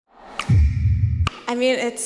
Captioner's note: snapping fingers